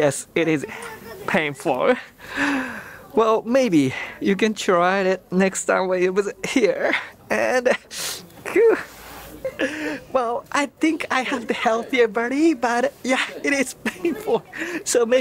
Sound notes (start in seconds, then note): 6.7 winces